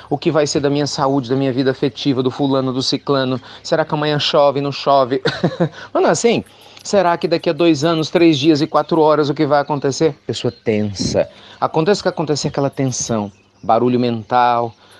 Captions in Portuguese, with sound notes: "O que vai ser da minha saúde, da minha vida afetiva, do fulano, do sicrano?" "Será que amanhã chove ou não?" (Risos) "O que será que vai acontecer daqui a 2 anos, 3 dias e 4 horas?" É pessoa tensa! Aconteça o que acontecer, há tensão e barulho mental.